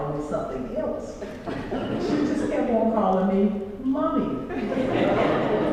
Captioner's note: laugh